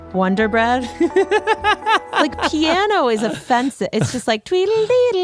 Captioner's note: laughs